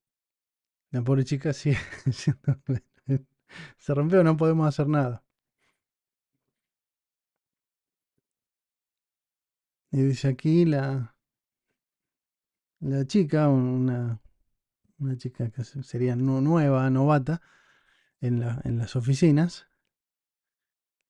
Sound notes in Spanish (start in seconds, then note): 1.6 risas